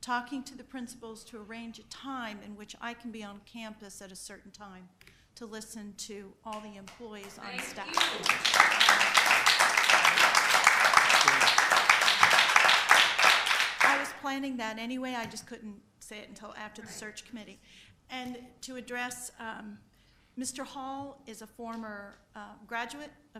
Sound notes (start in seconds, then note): 7.2 applause